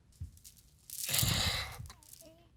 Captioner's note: sobbing